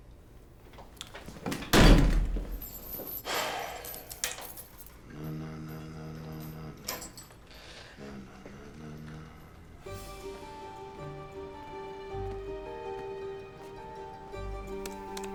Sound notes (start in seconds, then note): 3.2 sighs; 4.7 humming; 9.8 suspenseful music playing